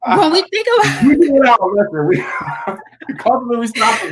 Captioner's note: laughing; laughs